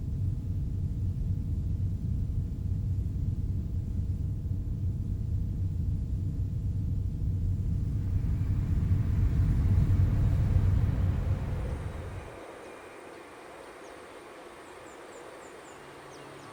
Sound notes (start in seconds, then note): 12.9 birds chirping